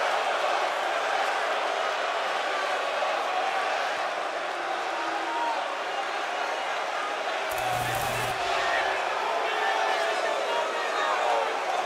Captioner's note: cheers and applause